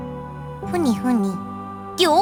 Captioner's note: secretive mumbling